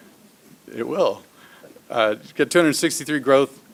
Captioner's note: laughs